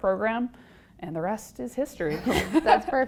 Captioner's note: laugh